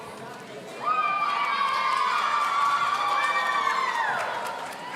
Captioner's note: audience cheering